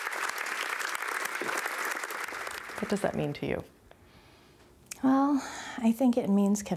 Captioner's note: applause